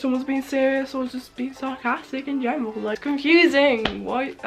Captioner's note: clap